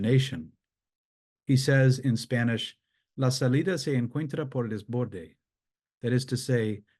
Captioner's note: speaks in a foreign language